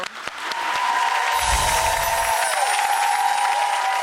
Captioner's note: crowd cheering